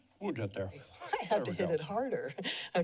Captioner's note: chuckles